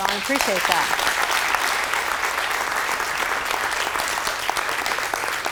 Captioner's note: applause